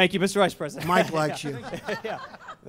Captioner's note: laughter